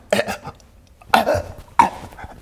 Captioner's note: chokes